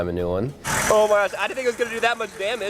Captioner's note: engine roaring